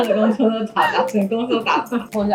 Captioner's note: haha